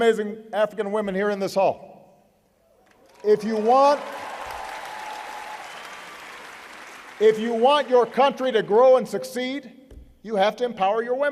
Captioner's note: applause